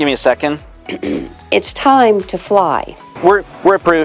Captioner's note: ahem